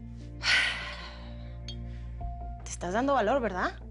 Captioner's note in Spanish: Suspiros